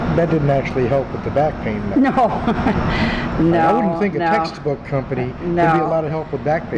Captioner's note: laughs